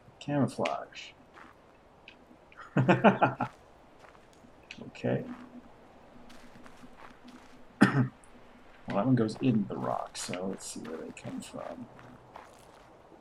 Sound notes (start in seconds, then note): 2.5 laughs; 7.8 coughs